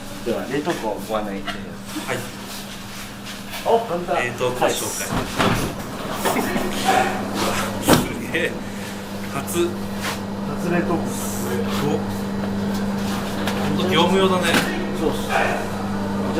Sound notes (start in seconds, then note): 9.3 laughs